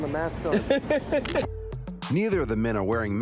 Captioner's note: man laughs